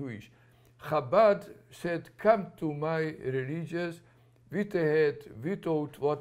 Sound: non-english

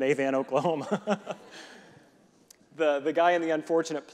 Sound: reverend laughing

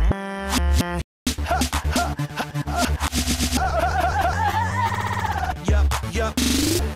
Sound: does rapid breathing excercises

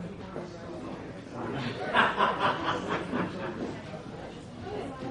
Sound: laughter

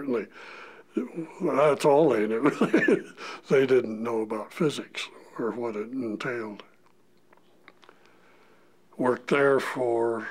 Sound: laughter

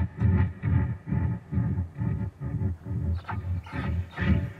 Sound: bird calling

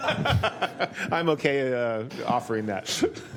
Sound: laughter

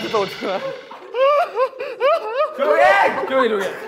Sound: he's been crying

